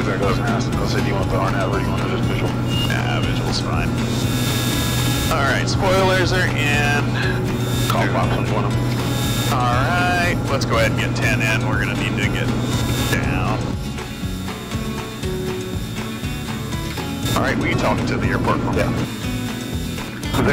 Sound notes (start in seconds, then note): 4.2 plane engine buzzing; 14.0 gentle country music continues